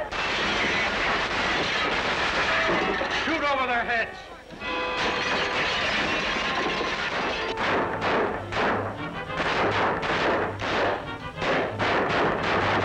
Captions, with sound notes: Shoot over their heads! [gunshots]